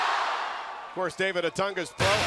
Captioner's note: crowd cheering